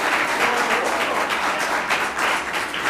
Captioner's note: ~cheers and applause~